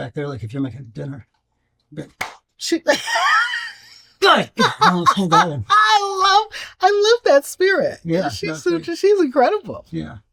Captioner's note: clap